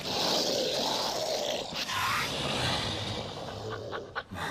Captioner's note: creature growling